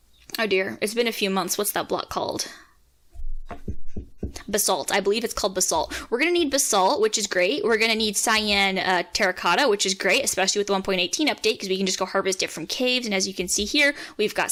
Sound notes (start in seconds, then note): 0.0 inhale; 3.4 taptaptap